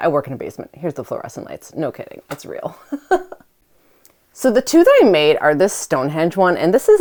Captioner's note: aughs